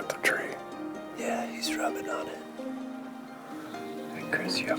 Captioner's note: offscreen, whispering